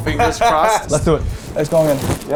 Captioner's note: laughing